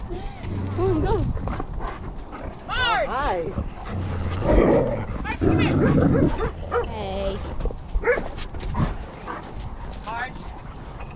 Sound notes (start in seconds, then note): 3.4 dog growls